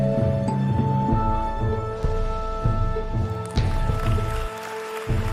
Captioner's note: audience applauds